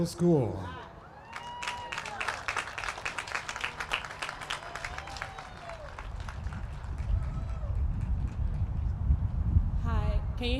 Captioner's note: applause